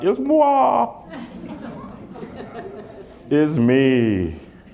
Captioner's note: laughter